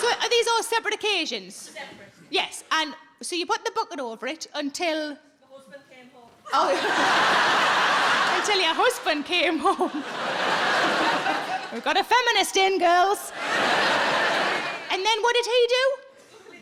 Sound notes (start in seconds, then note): 6.5 audience laughing; 13.2 audience laughing